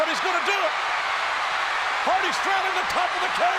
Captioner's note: crowd cheers